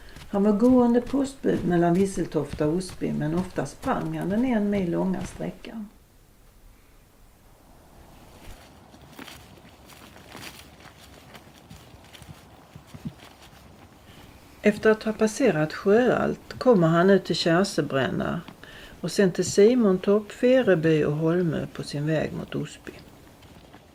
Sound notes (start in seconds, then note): 10.8 sound of steps on the footpath